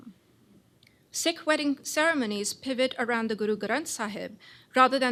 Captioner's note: non-english